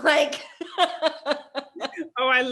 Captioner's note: both laugh